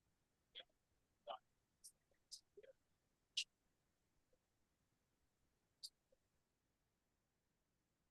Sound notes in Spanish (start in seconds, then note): 1.8 conversación confusa